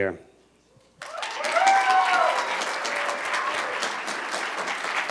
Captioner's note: cheers and applause